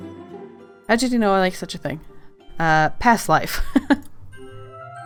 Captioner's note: laughs